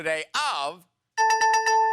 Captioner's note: dinging